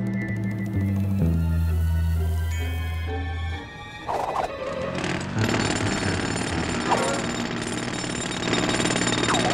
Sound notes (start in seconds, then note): 4.7 jackhammer hammering